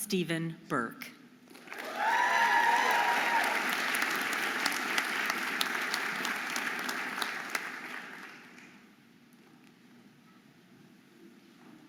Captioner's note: audience applauding and cheering